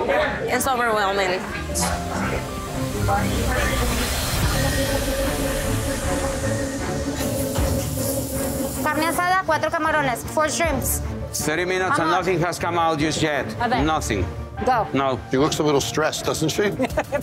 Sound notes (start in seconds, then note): 1.8 suspenseful music; 8.9 speaking foreign language